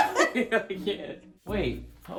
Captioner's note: laughing